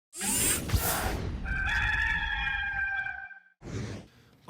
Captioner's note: gamecock crowing